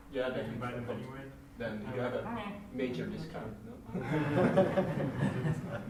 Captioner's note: laughter